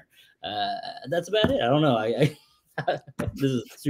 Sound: laughs

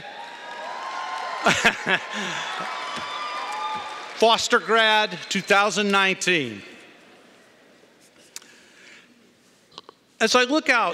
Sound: cheering & Applause

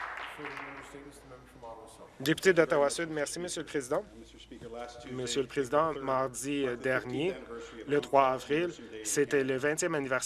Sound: applause

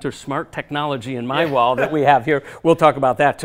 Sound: laughs

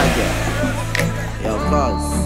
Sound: upbeat music; fingers snapping

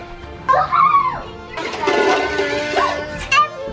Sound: exclaims

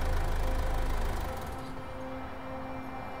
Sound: car shuts off

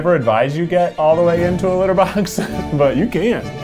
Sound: chuckles

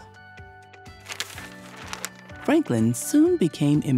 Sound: paper crinkles

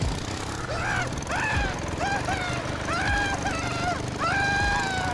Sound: character screaming

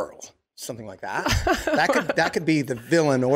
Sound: Meg laughing

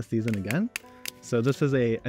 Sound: branch cracks

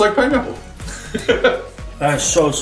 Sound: laughing

